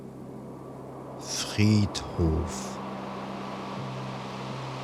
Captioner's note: german